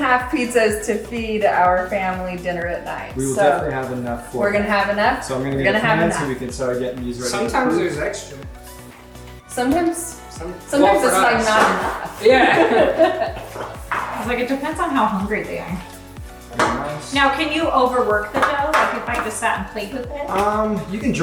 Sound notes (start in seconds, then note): 14.3 laughing